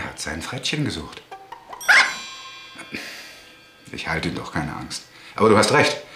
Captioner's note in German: Frettchen quiekt